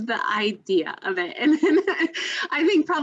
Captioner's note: laughter